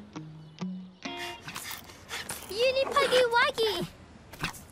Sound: panting

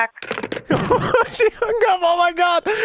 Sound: hangs up

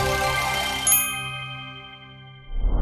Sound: none

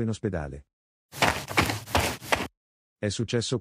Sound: FX - Footsteps - On Multiple Dirt - Run

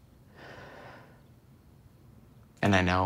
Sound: Sam sighs

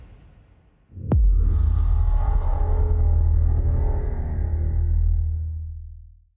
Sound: transition sound

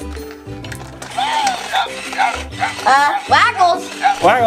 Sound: Game Growls and Eats Noisily

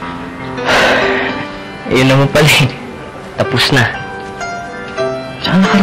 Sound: sighs

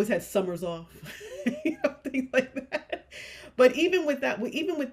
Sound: chuckles

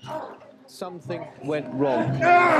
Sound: people screaming

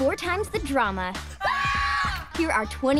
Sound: screaming

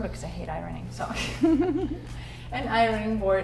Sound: laughing

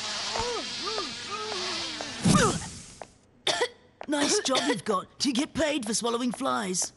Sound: fizzle; fly buzzing; coughs

